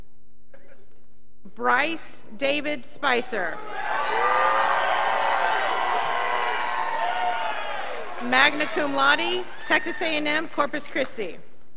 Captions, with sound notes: Bryce David Spicer, (scholars applauding) magna cum laude, Texas A&M Corpus Christie.